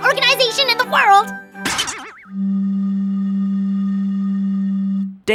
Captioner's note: sound of air flowing through a hollow tube